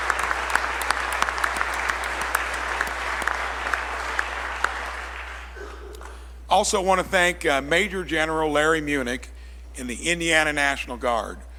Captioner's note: applause